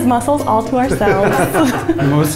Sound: laughing

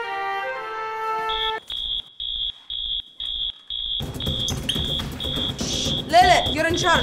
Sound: fire alarm

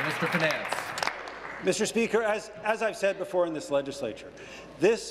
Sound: applause

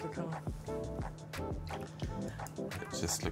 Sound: upbeat music; singer humming

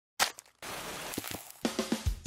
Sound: crunch; sizzling; energetic rhythmic music

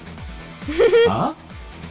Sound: chuckles

